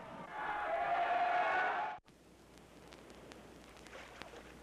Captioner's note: cheering